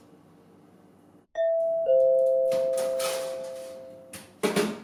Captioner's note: doorbell ringing